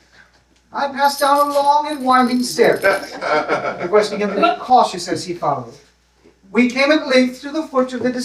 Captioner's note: laughter